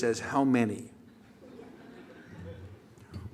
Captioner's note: laughter